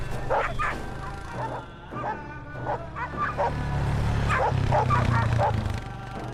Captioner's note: sound of dogs barking